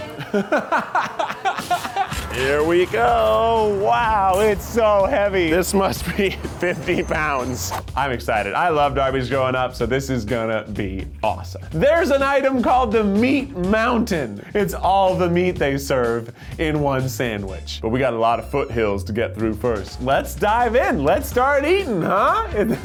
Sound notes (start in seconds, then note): 0.0 laughing; 1.9 cash register dings